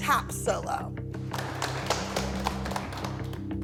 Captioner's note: applause